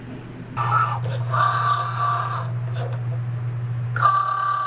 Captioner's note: machine whirring